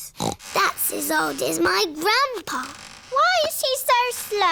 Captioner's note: snorts